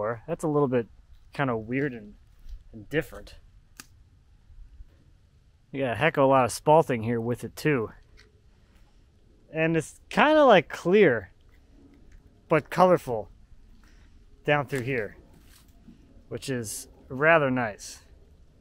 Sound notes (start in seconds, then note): none